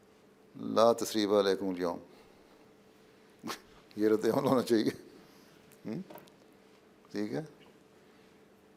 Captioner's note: Arabic